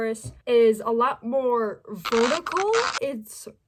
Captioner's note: stretchy sound